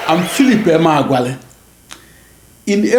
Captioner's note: wild applause and cheering for 22 seconds